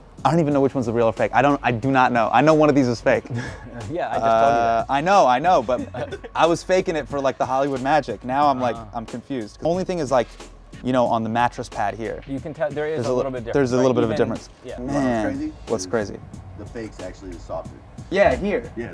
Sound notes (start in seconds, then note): 3.2 laughs